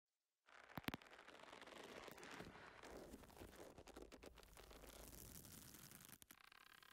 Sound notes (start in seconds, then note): 0.6 rope creaking